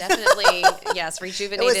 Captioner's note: laughing